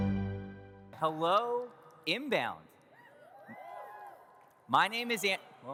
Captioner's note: audience cheers